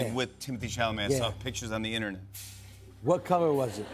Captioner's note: laughter